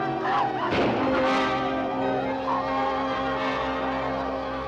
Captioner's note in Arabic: صراخ; موسيقى الأوركسترا المثيرة; إطلاق النار